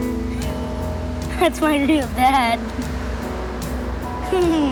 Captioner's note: giggling